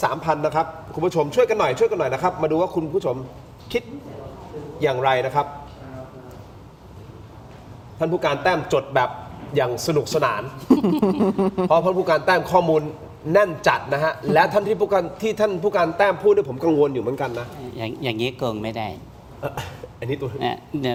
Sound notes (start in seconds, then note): 10.6 laughter